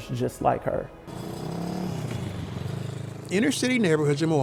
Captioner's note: vehicle droning